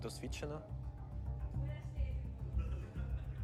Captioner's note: team chattering